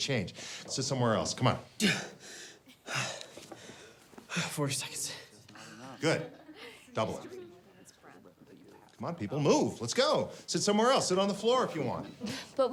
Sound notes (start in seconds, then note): 1.8 gasps